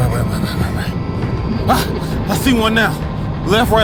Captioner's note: sub whirring